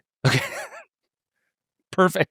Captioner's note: laughing